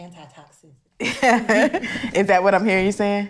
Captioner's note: laughs